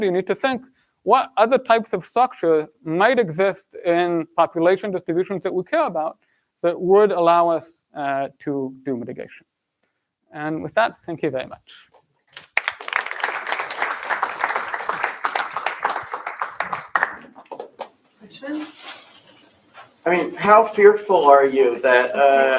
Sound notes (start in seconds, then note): 12.3 applause